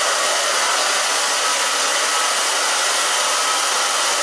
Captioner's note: blow dryer